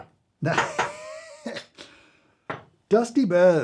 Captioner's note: chuckles